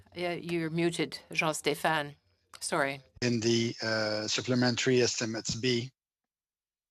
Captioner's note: speaking French